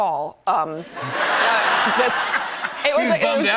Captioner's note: laughter